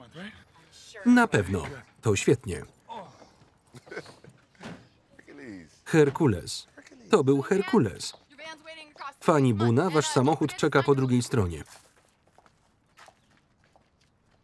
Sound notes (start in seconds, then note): 2.5 grunting; 3.6 chuckles